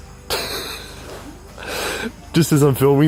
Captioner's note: laughs